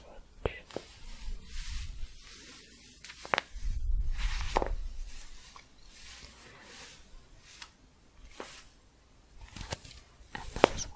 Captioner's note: staticky shuffling and crinkling